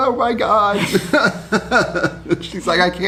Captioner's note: laughs